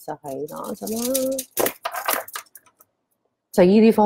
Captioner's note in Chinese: 攞鏈雜聲…